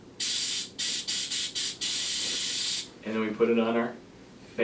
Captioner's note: air blowing